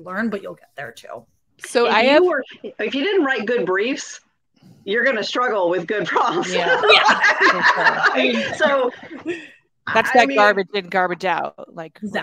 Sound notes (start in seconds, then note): 6.2 all laugh